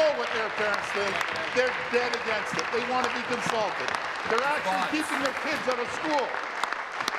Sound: applause

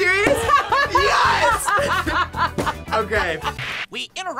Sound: laughs

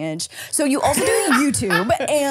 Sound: laughing

